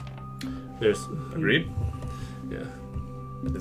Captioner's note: quietly